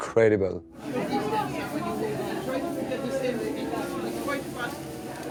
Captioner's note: people chattering